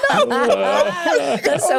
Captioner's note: laughing